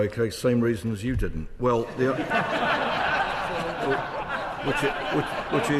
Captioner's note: laughter